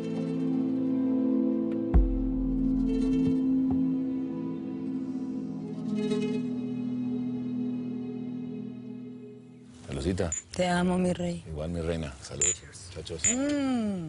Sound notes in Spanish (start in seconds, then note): 10.2 Chocan las copitas; 13.1 Chocan las copitas